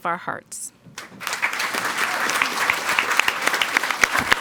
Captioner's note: people clapping